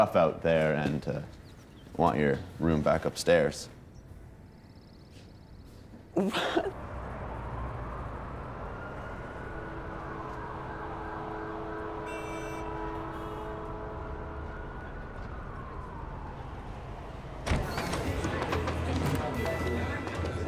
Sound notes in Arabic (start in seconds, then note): 6.1 ضحكة مكتومة; 7.8 نحيب صفارات الانذار; 12.3 صافرة أبواق السيارة; 17.7 الثرثرة